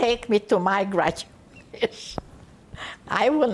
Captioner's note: laughing